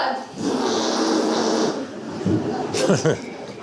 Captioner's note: Theseus makes a farting sound